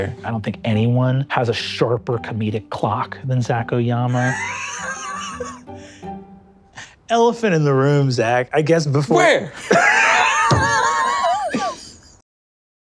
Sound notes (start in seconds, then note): 4.0 laughing; 9.5 both laughing